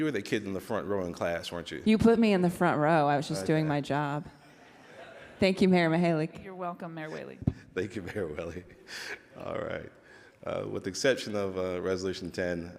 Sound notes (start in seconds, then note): 3.3 laughing